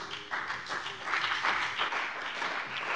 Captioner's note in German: Beifall bei dem BÜNDNIS 90/DIE GRÜNEN und der CDU